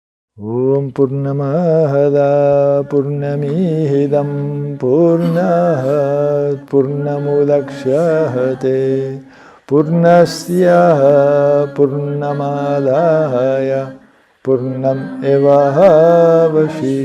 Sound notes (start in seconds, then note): 0.1 chanting; 2.9 chanting; 6.4 chanting